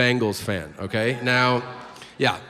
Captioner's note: people cheer